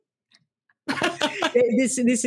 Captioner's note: both laugh